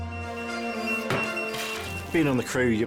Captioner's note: pager beeping; upbeat music